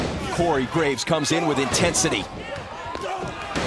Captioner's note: crowd cheering